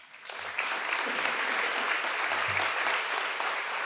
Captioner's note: audience applauding